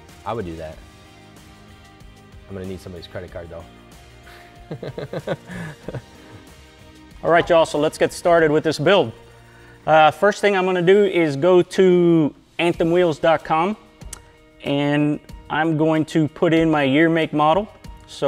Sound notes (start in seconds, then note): 4.2 laughs